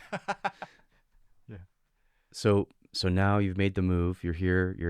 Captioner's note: laughing